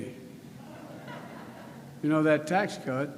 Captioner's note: laughter